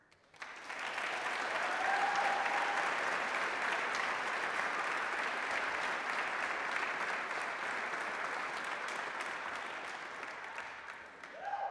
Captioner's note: applause